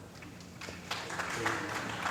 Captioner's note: applause